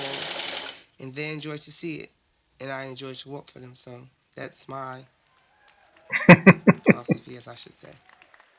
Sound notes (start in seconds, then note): 6.1 chuckling